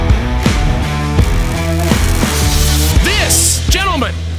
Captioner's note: sparks sizzle